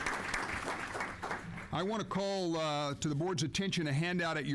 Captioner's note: applause